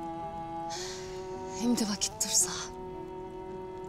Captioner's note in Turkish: İç çekiyor